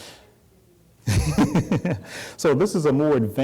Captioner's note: laughter